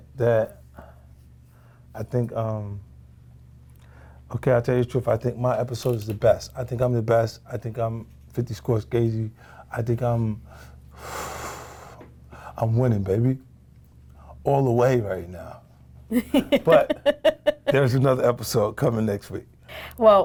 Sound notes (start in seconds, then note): 10.9 exhales; 16.1 laughs